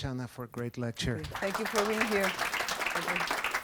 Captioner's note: applause